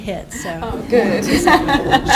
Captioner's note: laughter